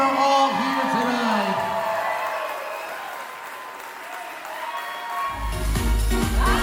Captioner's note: cheering continues; applause continues; lively music